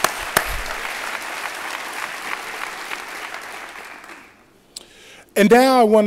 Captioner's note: applause